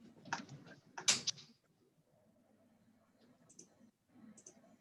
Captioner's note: keyboard clicking